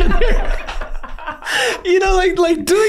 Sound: all laughing

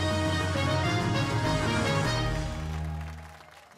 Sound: cheers and applause

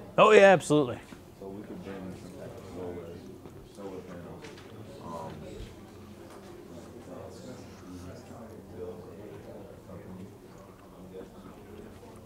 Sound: audience talking

